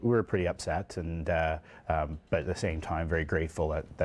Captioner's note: voiceover